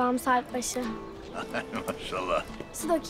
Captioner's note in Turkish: Gülme sesi